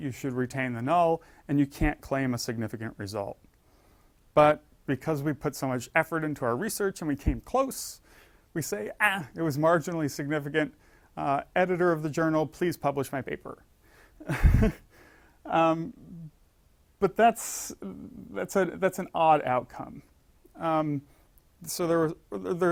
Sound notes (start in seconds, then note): 14.2 laugh